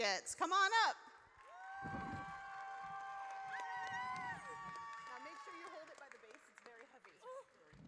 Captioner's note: audience cheers